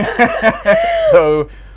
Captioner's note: laughter